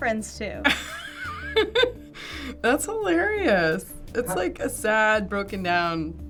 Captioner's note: laughs